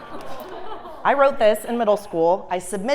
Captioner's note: laugh